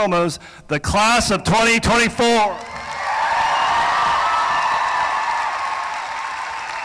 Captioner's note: cheering; applause